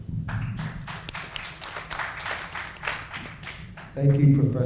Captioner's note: applauding